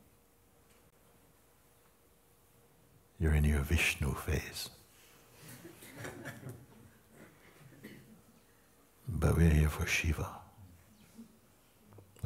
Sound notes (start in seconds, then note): 5.4 laughter